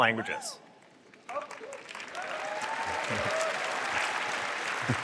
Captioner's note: applause